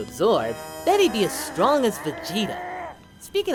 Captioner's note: growling to himself